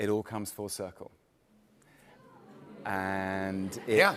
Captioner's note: audience oohs